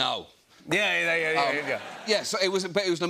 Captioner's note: laughter